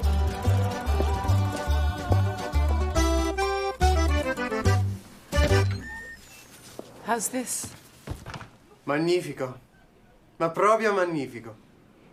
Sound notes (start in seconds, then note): 5.4 door opening